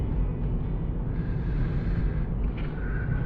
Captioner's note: inhales deeply